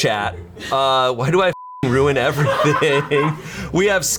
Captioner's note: beeps; colleagues laughing